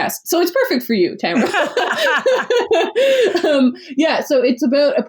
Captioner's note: laughs